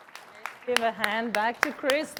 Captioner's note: applause